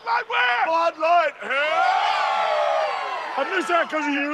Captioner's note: crowd celebrates